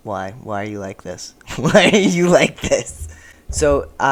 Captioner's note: laughing